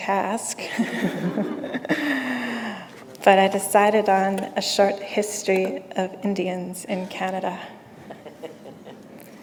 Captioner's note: chuckle